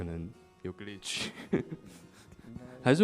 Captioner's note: laughing